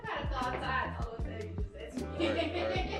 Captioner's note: giggles